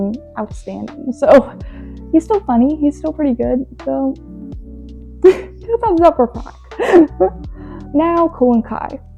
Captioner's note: laughs